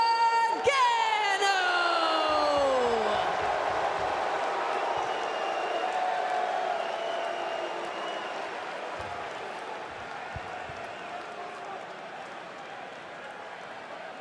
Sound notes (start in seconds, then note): 1.9 crowd cheering